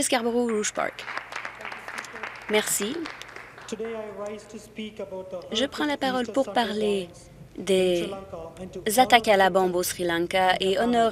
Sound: applause

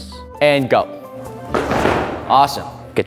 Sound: feet stomping

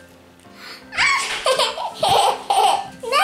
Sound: laughing

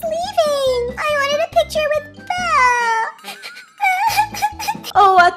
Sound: cries

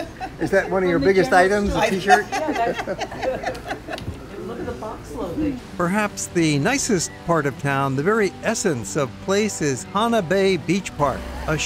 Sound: laughter

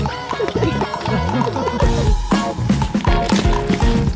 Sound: laughing

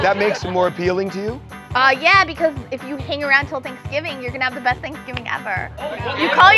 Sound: laughter

